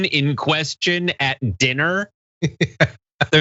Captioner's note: laugh